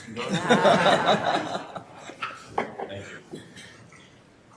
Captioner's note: laughing